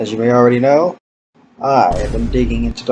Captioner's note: boom